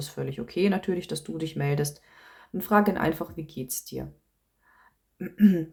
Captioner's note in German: räuspern